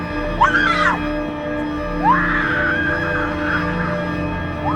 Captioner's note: Shelby screams